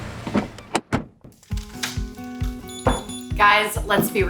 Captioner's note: beep beep beep; door clicks